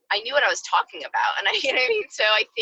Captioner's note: laughs